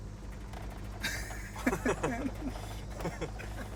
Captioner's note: chuckling